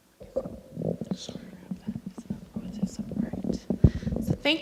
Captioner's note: speaks faintly